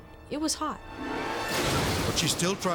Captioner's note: dramatic whoosh; car exploding